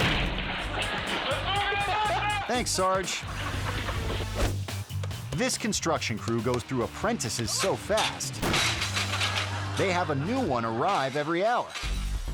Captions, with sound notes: (kick slamming) (soldier barking orders) Thanks, Sarge. (audience laughing) (dot whooshing) (lively music) This construction crew goes through apprentices so fast... (ladder crashing) They have a new one arrive every hour.